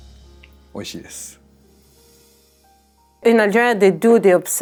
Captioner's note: gentle elegant music; speaking Japanese